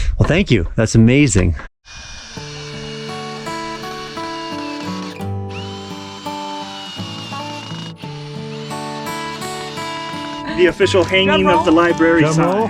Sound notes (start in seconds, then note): 2.6 calm music; 6.2 drilling